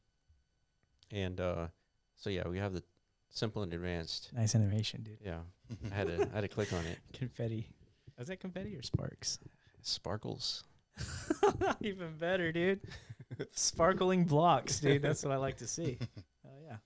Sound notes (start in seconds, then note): 11.0 laughs